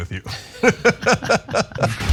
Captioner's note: laugh